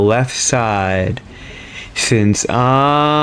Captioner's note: inhales Oxygen